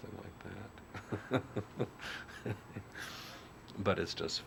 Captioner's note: laughs